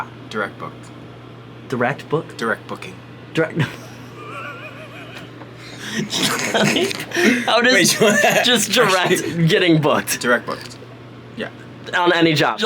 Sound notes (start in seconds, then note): 5.6 Casey laughs